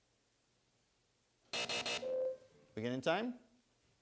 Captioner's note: bell rings